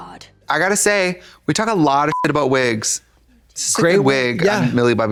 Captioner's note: beep